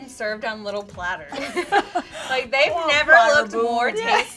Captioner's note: laughing